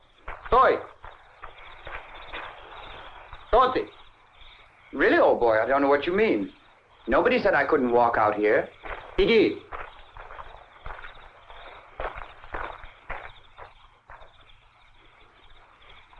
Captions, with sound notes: (soldier speaking in Russian) - Really, old boy. I don't know what you mean. Nobody said I couldn't walk out here. (soldier speaking in Russian)